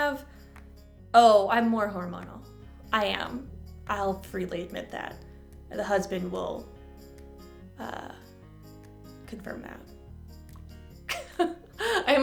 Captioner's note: chuckle